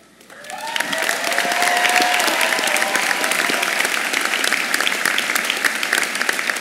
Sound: audience applauds

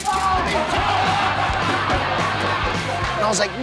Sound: laughing

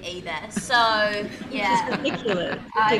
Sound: audience laughs

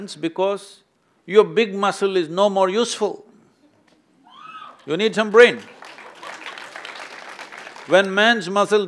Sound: applause

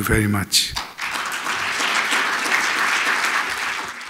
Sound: applause

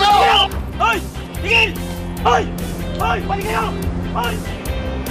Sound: whistles

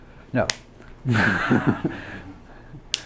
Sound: laughs

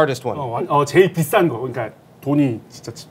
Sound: in Korean

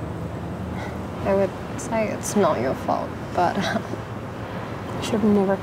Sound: chuckles

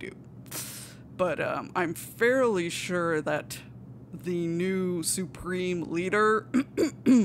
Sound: coughs

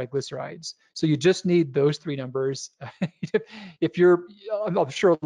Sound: laughs

